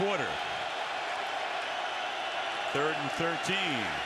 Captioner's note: cheers